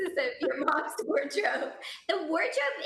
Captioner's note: laughing